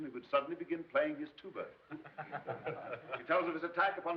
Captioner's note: all laughing